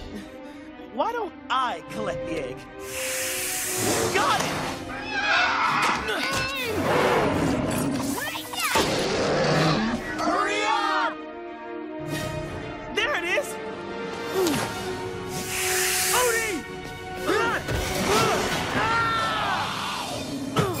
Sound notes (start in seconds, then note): 2.8 hissing; 5.0 squealing; 6.7 grunting; 6.7 roaring; 18.0 screaming